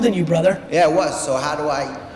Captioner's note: Munch